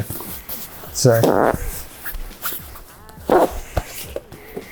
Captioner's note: fabric squelching